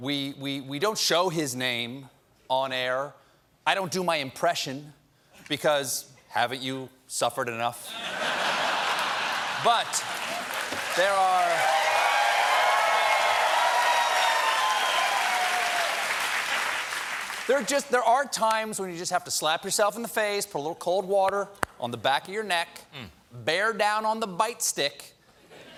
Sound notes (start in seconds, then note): 7.8 laughter; 8.8 applause; 11.5 cheering